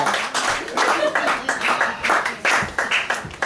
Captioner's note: applause